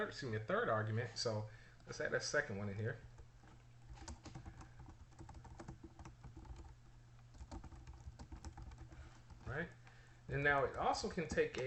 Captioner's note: typing sounds